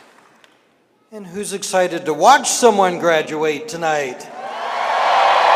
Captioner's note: cheering and applause